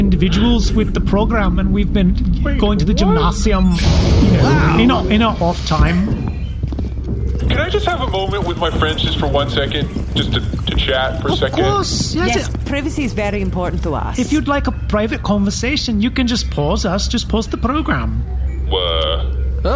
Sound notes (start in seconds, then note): 6.6 the elevator beeps and lets the group off